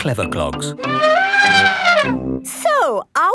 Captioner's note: trumpeting